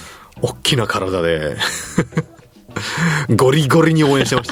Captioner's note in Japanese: 笑い